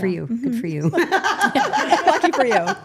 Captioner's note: group laughing